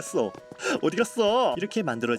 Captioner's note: gasp